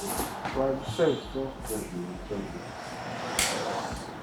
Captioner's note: murmuring